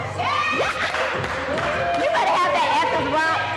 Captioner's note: cheering